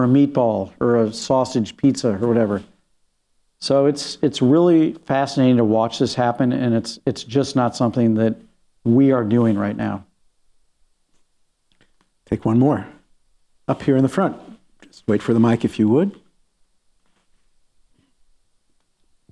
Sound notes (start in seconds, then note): none